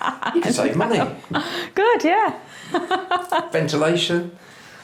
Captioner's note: laughs; laughs